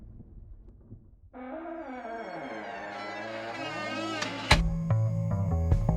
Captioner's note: door hinges creaking